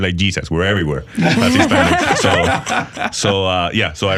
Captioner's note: laughing